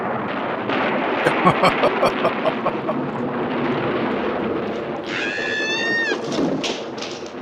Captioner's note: laughing